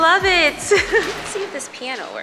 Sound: laughs

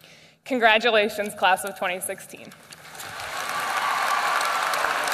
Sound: applause

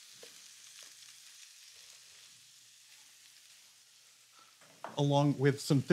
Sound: sizzling

